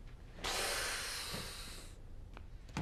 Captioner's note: scoffs